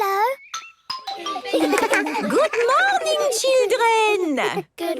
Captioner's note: laughter